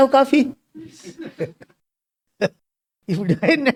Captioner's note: laughs